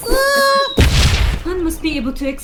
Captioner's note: explosion